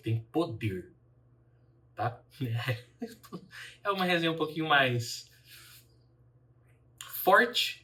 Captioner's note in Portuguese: risadas